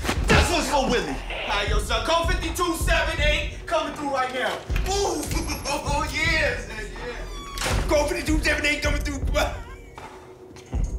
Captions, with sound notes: THIS ONE'S FOR WILLY! YO, SON, CODE 5278. COMIN' THROUGH RIGHT NOW. OOH! [LAUGHING] OH, YEAH, SON, YEAH. CODE 3278, COMIN' THROUGH. [LAUGHS]